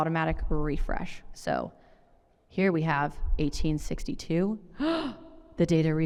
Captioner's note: gasps